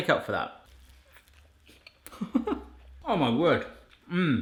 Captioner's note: chuckling